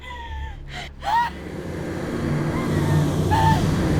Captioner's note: Connie sobs